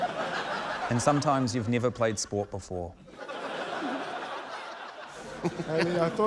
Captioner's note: laughter; laughter